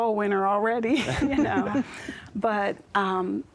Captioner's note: laughter